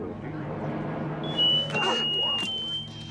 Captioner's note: shrill piercing whistle